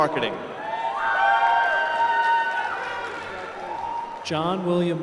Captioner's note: applause